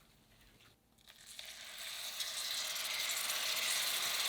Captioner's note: sizzling